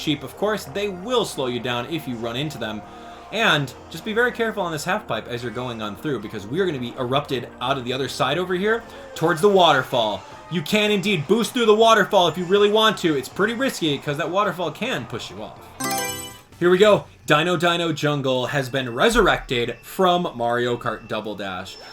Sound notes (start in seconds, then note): 15.8 Mario Selection Sound